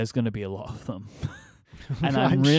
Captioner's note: laughs